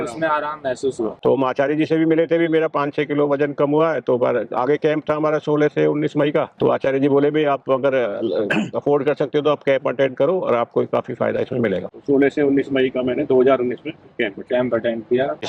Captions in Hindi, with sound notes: उसमें आराम महसूस हुआ। तो हम आचार्य जी से भी मिले भी मेरा 5 छ किलो वजन कम हुआ है। तो पर आगे कैंप था हमारा 16 से 19 मई का। तो आचार्य जी बोले भाई आप अगर अफोर्ड [गला साफ़ करने की आवाज़] कर सकते हो तो आप कैंप अटेंड करो और आपको काफी फायदा इसमें मिलेगा। 16 से 19 मई का मैंने 2019 में कैंप कैंप अटेंड किया।